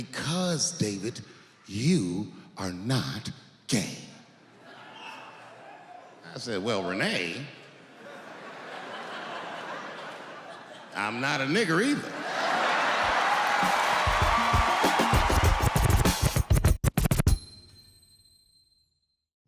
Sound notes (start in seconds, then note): 12.0 audience laughs; 13.0 upbeat music